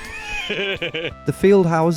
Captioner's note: laughs